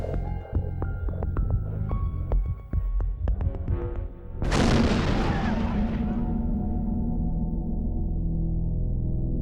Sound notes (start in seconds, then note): 4.4 explosion